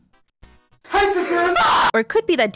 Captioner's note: scream